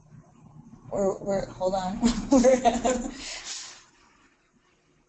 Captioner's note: laughs